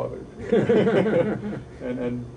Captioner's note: laughing